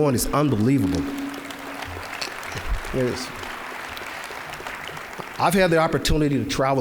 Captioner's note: applause